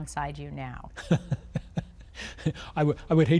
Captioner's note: laughs